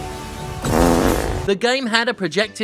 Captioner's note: man farting